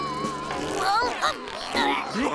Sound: groaning

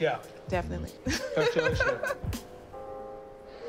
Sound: laughs

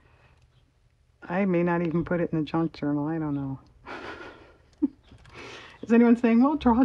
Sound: laughs

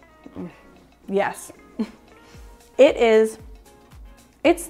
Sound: chuckles

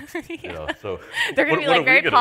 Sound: laughs

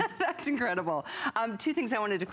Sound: laughter

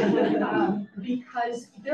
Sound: audience laughs

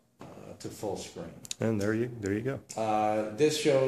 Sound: voiceover

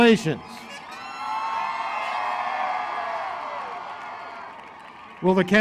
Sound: applause

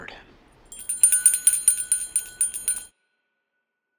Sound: bell ringing

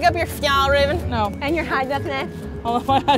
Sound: speaks sarcastic gibberish

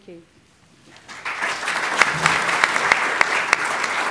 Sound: applause

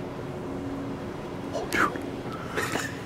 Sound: laughs

